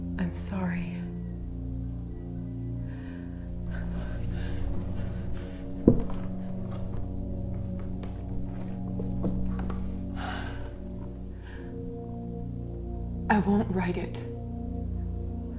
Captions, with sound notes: I'm sorry. (Leona pants) (Leona sighs) I won't write it.